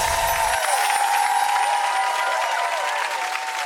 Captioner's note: audience cheers; chimes